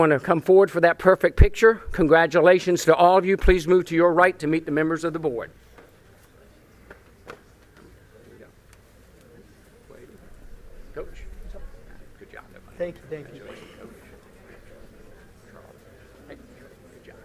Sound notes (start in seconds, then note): 5.5 group chatter